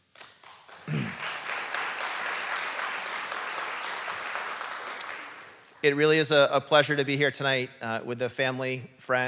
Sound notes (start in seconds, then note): 1.8 audience clapping